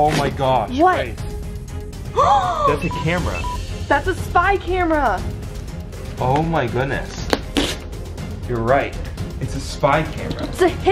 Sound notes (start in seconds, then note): 2.1 gasps